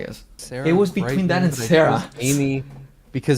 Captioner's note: laughs